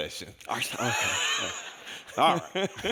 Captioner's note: audience laughs